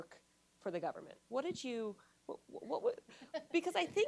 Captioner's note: laughs